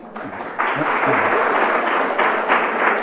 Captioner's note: applause